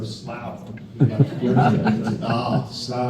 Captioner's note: crowd laughs